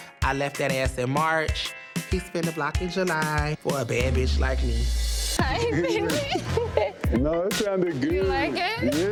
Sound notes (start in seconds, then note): 5.4 laughing; 5.5 thumping hip-hop music